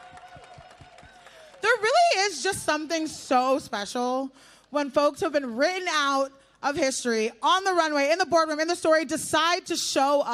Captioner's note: applause